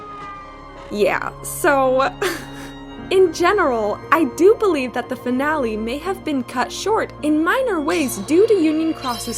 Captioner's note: scoff